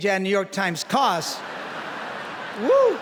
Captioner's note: laughter